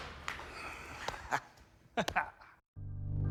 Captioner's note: laughs